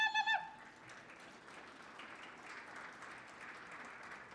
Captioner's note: audience applauds